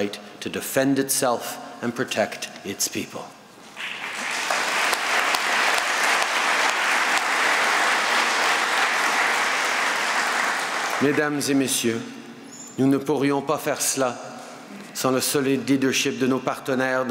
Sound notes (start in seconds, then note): 3.7 applause